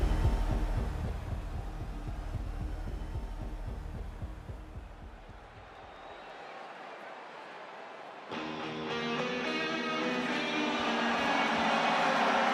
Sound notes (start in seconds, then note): 5.8 crowd cheering; 8.3 rock music; 12.3 crowd cheering